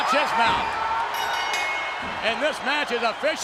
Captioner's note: bell rings